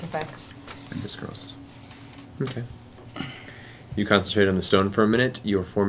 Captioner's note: none